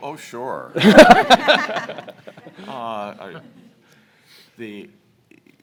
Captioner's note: panelists laughing